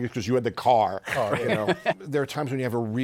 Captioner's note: laughs